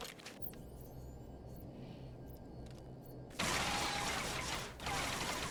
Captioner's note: gun firing